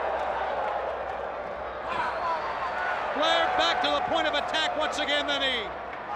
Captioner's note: crowd chatter